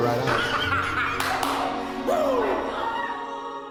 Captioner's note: laughing